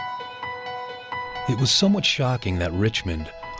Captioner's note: lighthearted music; voiceover